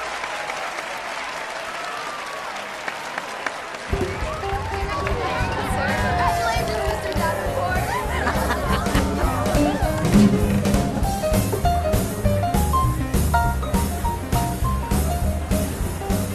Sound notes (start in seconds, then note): 8.5 laughing